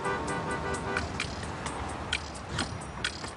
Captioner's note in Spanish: Ruido de tráfico vehicular